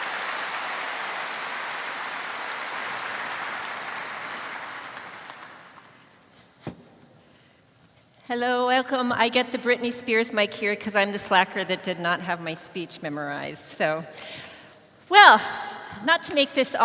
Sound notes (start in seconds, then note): 2.1 cheers and applause